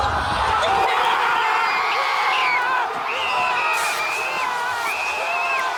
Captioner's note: basketball bounces; screaming